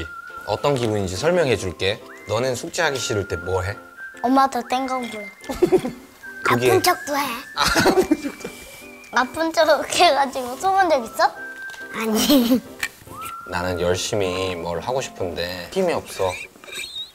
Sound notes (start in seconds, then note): 5.4 laughing